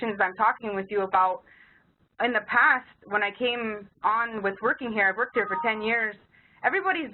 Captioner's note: beeping noise